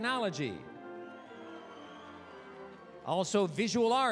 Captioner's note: applause, cheering